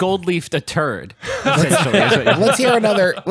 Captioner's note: laughs